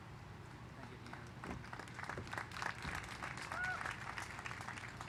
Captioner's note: applause